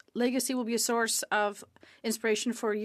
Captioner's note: speaking French